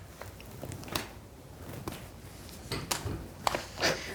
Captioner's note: hands smack